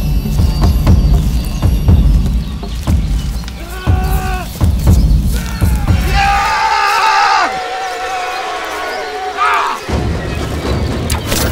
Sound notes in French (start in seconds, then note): 5.3 cri